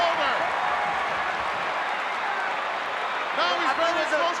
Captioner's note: crowd cheering